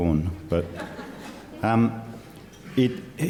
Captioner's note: laughter